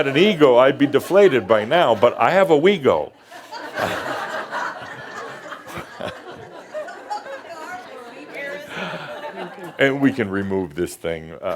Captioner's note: more laughter